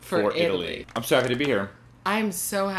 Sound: sfx: small crowd clapping

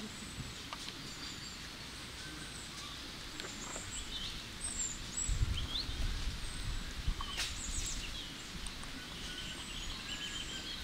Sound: sound of nature

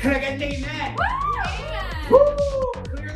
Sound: cheers

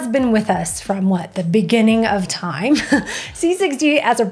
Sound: chuckles

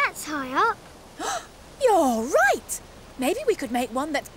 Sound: gasps

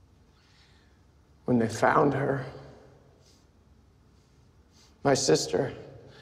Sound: sniffles

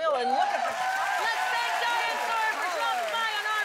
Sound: applause

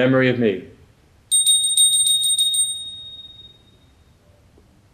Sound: bell chimes

